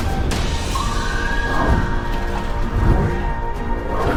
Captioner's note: screaming